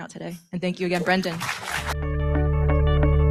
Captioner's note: audience claps